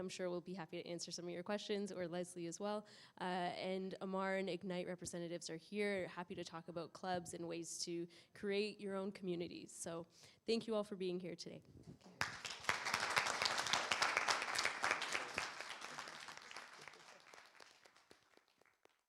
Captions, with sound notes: and I'm sure will be happy to answer some of your questions or Leslie, as well. Uh, and Ammar and IGNITE representatives are here, happy to talk about clubs and ways to create your own community. So thank you all for being here today. [applause]